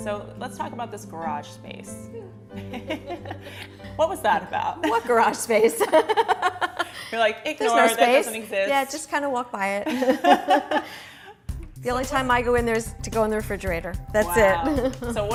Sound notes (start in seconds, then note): 2.5 laughter; 4.8 laughter; 9.8 laughter